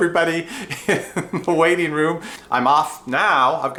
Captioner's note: laughs